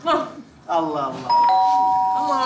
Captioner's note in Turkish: Zil çalar